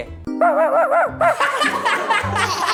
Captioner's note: laugh